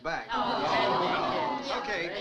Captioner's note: crowd groans